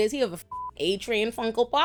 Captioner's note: beep